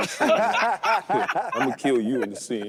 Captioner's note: group laughing